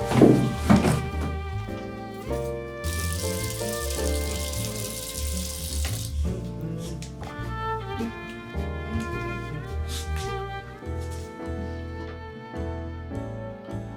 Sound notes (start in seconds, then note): 2.8 water trickling; 8.5 humming softly